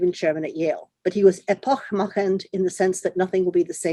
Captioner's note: speaks in foreign language